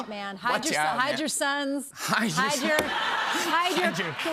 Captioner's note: laughter